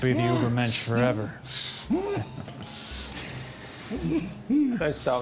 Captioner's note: groaning